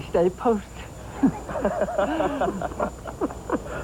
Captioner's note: laughter